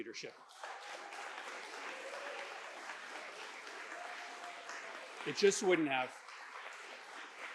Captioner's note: applause